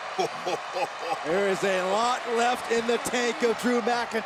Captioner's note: laugh